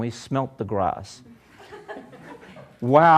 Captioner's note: laughter